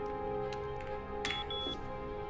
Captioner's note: beeps